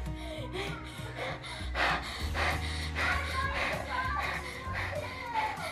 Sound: breathing heavily

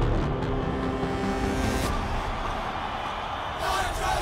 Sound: cheering

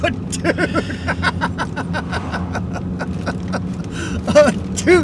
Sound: laughing

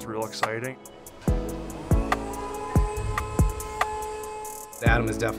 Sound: machine whirring

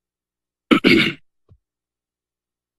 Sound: clears throat

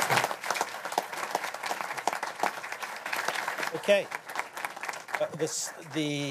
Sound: applause

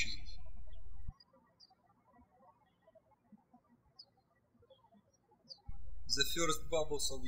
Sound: birds chirping

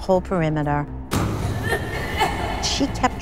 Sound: coughing

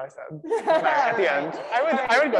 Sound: laughs

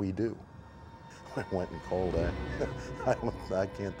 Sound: chuckles

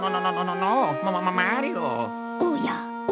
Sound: Luigi speaking gibberish

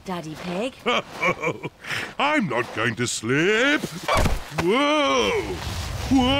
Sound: snorts; chuckles

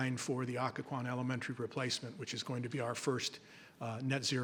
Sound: none

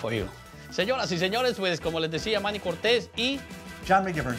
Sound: speaking in Spanish

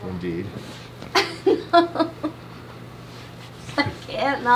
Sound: laughing

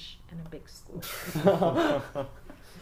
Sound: interviewers laugh

